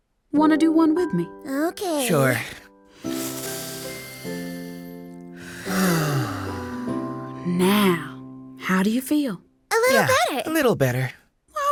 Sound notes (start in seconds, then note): 2.9 breathing deeply